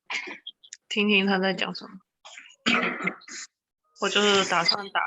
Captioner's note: Chinese language